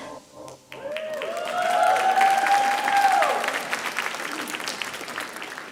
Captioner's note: audience cheering and applauding